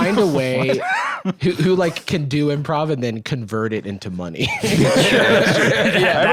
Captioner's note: laughs